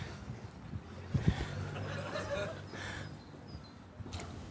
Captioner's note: mild laughter